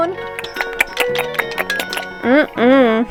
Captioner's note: lip smacking noises